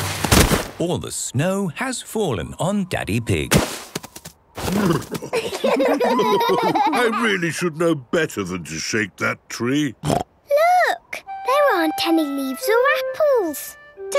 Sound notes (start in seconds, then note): 5.1 laughter; 9.7 snorting